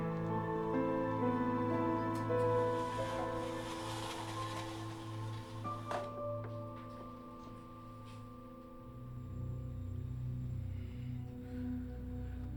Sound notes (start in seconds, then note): 2.6 blinds rustling; 9.3 suspenseful music